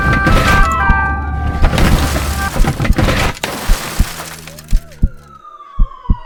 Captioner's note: shattering glass, crying woman